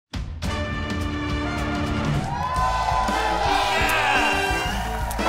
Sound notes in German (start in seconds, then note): 0.4 Spannungsvolle Musik; 1.5 Jubel, Applaus